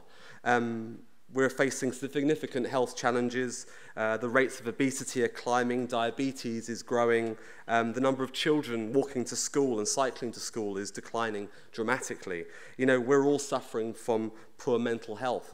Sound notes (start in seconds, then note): none